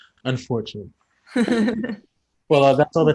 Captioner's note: all laugh